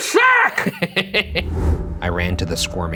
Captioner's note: laughs